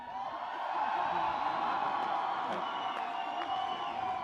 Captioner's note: audience cheering